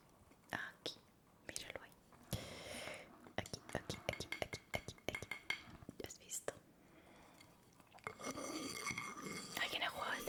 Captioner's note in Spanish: resoplido